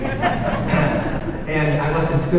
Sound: audience laughing

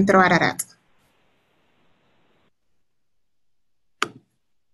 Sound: keyboard cranking

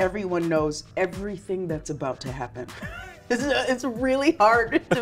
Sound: laughs

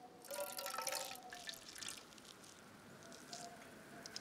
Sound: pouring water

